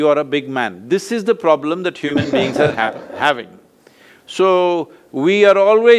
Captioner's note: laughs